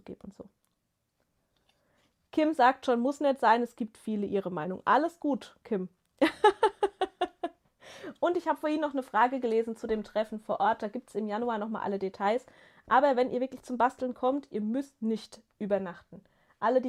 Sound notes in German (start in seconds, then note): 6.2 gelächter